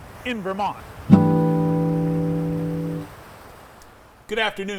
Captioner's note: waves crashing; guitar chord ringing